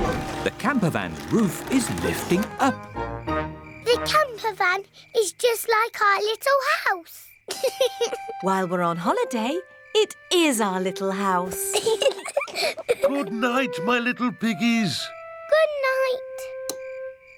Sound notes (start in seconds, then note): 7.5 george laughs; 11.5 both laugh